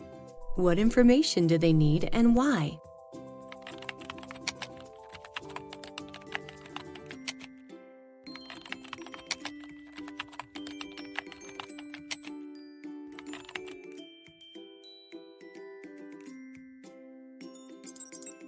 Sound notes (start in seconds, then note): 3.4 gentle music; 3.5 keyboard typing